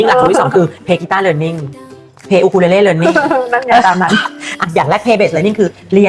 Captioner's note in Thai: เสียงหัวเราะ